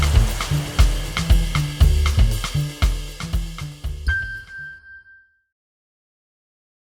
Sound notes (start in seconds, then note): 0.0 upbeat music; 4.1 chime ringing